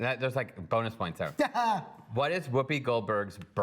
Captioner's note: laughs